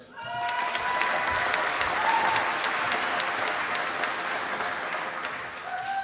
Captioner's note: applause